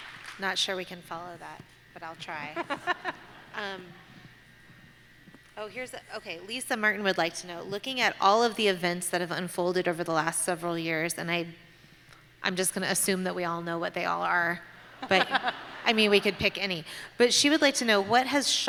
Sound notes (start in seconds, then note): 2.5 laughter